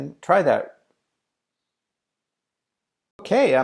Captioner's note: silence